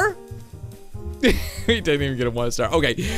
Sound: laughing

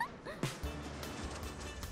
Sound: laughing; upbeat music

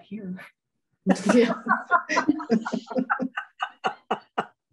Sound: all laughing

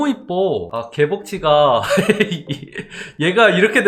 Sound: laughing

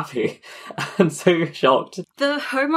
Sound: laughing

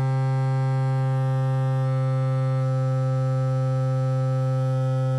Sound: more droning

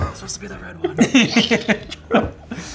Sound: laughing

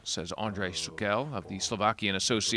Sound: speaking foreign language

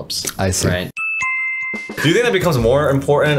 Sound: electronic beep

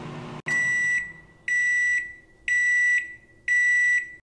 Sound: loud beeping

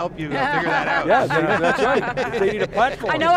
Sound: colleagues laughing

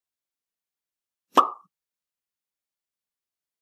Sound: pop

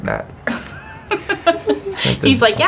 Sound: laughing

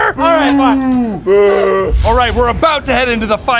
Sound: booing

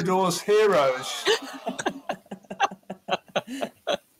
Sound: laughing

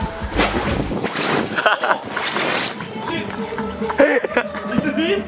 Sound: laughing

